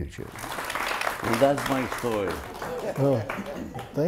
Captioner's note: audience applauds